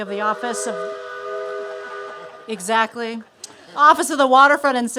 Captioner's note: horn blares